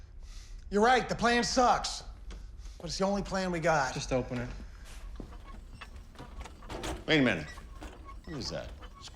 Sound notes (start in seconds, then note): 5.0 squeaking